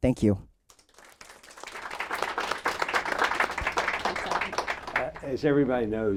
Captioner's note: applause